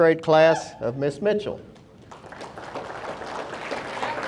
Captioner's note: audience applauding